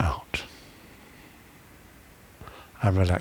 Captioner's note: breathing